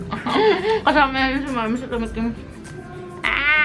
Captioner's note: laughs